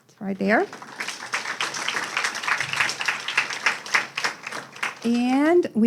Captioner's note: audience applauding